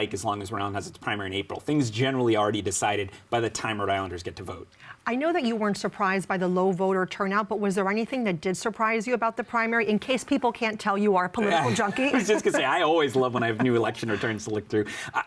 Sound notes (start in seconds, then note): 13.1 laughing